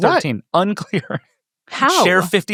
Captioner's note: laughs